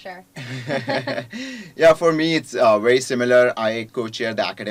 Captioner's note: laugh